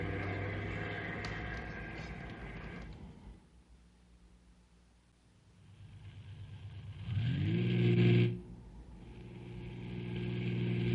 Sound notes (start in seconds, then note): 0.0 engine revving